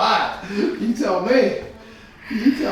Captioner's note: both laughing